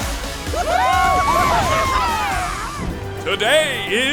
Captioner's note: cheering